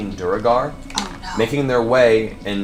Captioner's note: whispers